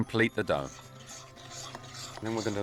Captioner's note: spoon rustling